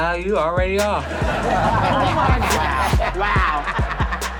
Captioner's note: audience laughs